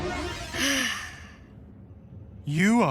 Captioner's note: sighs